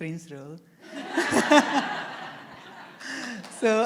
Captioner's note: laughter